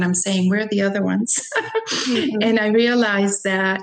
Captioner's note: chuckles